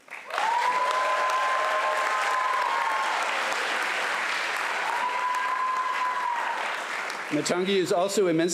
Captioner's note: cheering and applause